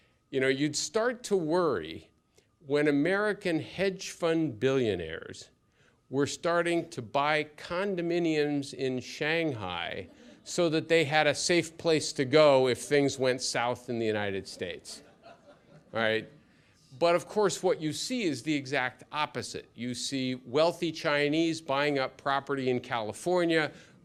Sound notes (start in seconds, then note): 14.5 laughter